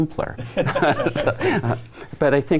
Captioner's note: all laugh